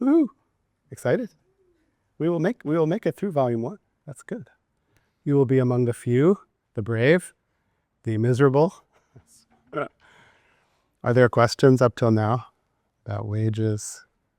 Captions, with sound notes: Woo, excited? - Woo! - We'll make it through Volume 1, that's good. You'll be among the few, the brave, the miserable. (chuckles) Now, are there questions up till now about wages?